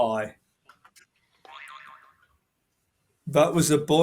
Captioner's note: boing